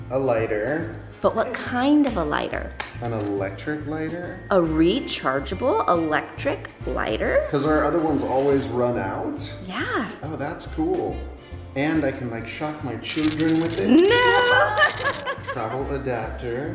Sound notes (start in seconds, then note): 14.4 laughing